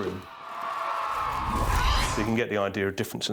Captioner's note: crowd cheering